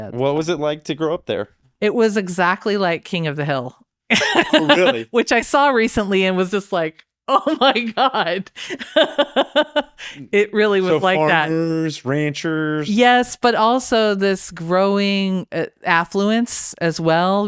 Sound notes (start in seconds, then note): 4.1 laughs; 7.4 laughs